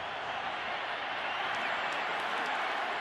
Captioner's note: crowd cheering